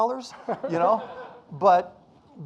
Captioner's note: audience laughing